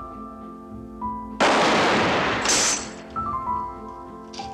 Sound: two Gun Shots

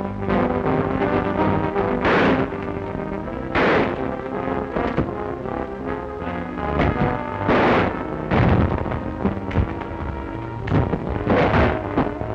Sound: gunfire

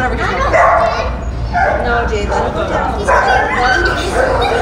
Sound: dogs barking

